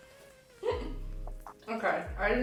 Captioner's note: laughs